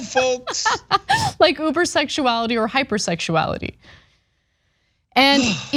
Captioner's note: laugh